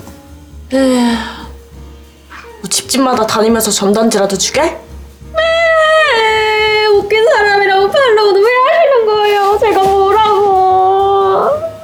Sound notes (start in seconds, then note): 0.7 sigh; 5.3 cry